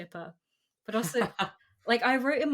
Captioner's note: laughs